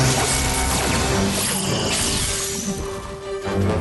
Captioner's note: zap